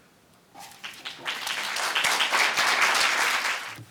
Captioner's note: clapping